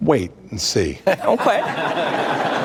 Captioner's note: laughter